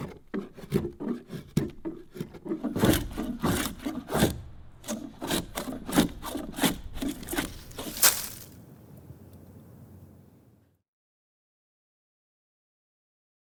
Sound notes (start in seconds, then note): 7.6 chips scattering